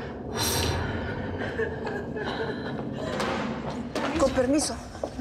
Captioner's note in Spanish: sollozos